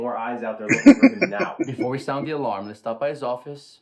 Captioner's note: laughing